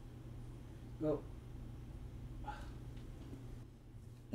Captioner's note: sighs